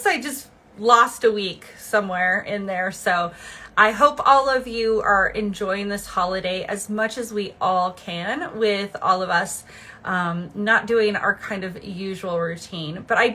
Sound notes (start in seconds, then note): none